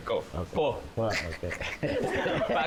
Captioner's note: chuckles